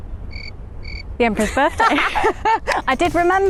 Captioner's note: crickets chirping